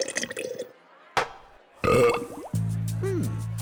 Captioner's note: belches